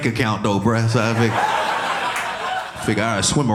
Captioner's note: audience laughing